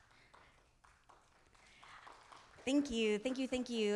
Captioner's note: audience applauding